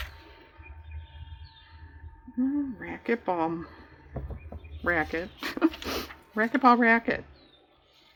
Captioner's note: laughs